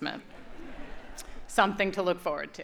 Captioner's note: audience laughs